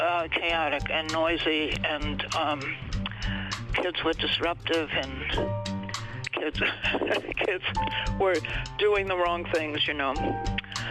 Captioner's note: laughs